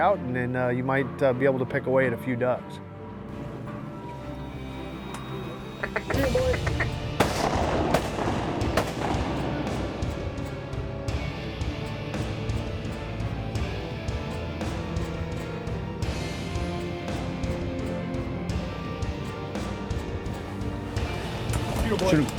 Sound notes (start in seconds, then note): 4.4 duck calls; 7.1 gun shots